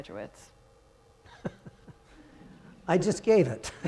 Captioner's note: chuckles; congregants chuckling